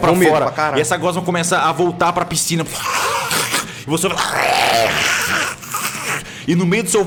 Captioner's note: grunting